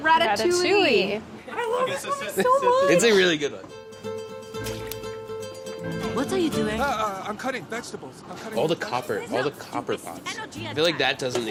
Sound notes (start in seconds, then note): 3.9 upbeat classical music; 7.3 stammering